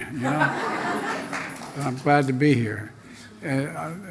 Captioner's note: laughter